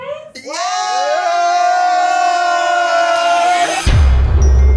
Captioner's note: all cheer; bright music